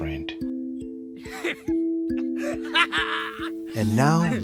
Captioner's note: suppressed laughter spreads bunk to bunk